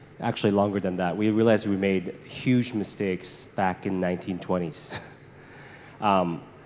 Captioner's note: chuckles